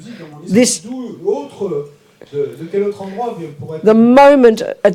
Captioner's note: audience member speaks in French